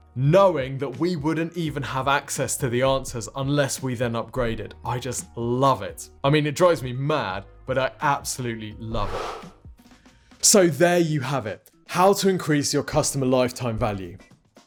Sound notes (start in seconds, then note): 8.9 swoosh